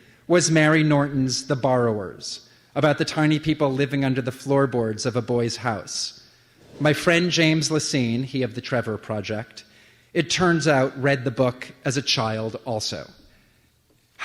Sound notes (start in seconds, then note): none